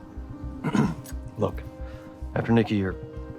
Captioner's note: clears throat